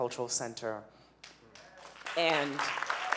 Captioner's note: audience cheering